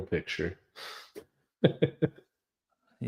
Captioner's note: laughs